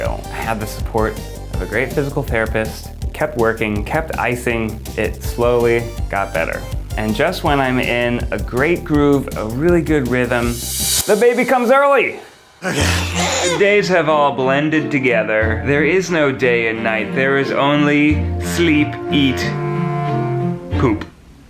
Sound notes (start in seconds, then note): 12.6 baby cries